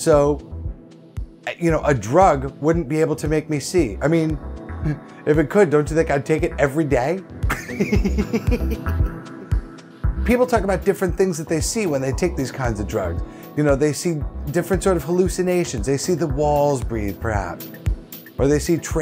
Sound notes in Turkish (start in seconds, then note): 7.6 güler